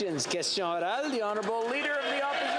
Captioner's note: some Applause